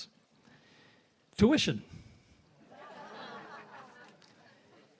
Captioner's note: audience laughs